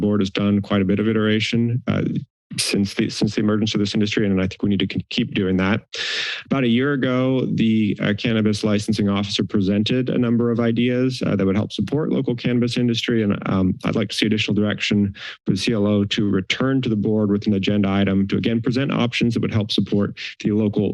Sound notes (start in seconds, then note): 5.8 inhales